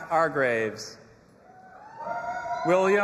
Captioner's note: audience applauding and cheering